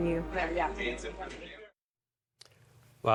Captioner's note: indistinct chatter